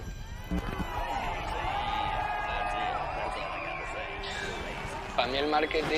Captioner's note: audience applauding and shouting